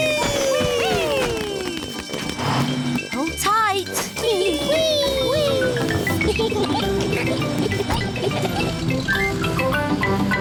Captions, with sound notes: -Whee! -Whee! Hold tight. -Whee! -Whee! -Whee! -Whee! (GIGGLING)